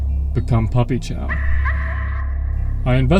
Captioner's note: spooky *Arf Arf* sound effect